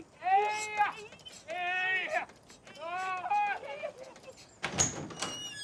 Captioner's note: exclamations; bedsprings squeaking; man crying out